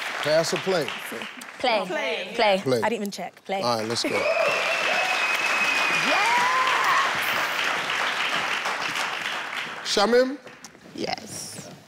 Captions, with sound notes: - Pass or play? - Play - Play, I didn't even check, play. - All right let's go. (audience cheering) - Shamim. - Yes.